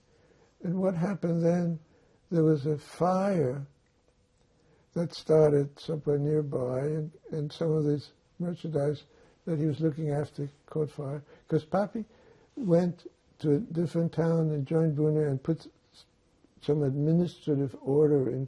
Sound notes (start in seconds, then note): none